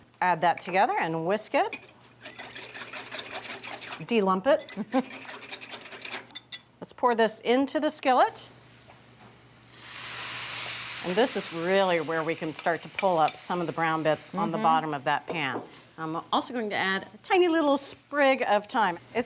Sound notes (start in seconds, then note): 2.2 liquid sloshing; 4.7 chuckles; 9.5 pan sizzling